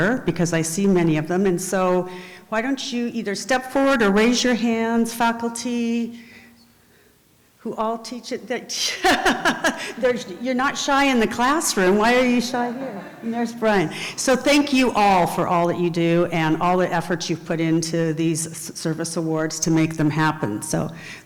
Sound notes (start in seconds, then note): 8.8 laughs